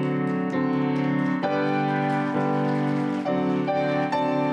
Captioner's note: applause